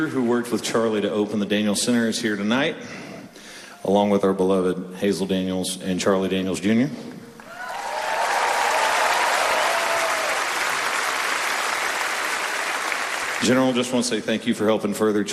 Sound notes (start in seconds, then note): 7.4 applause